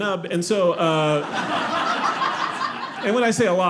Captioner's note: audience laughing